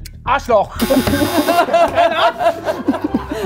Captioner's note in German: Lachen